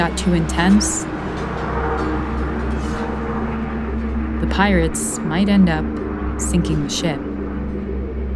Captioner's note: soundbite of swords clashing